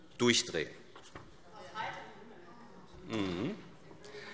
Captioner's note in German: Zuruf